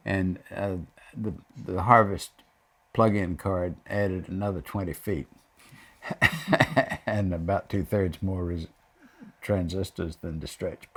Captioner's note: laughs